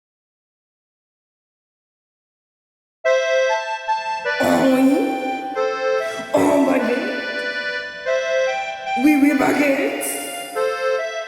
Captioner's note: speaking French-ish